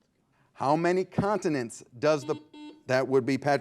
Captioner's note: button beeping